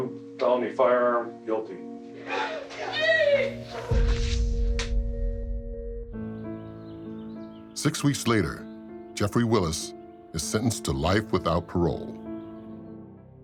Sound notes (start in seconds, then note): 2.3 cheering